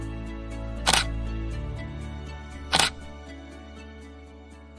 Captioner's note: camera clicking